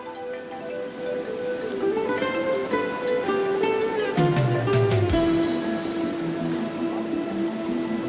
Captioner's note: water rushing